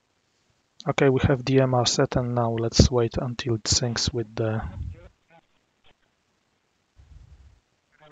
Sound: radio communication in the background

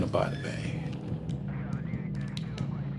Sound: murmuring; foreboding instrumental music

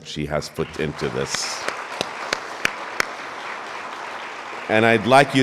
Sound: all applauding

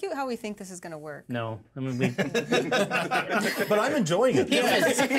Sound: speaker laughs

